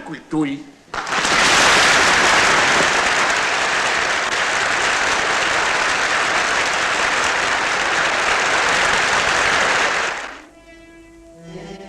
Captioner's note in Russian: аплодисменты; напряженная музыка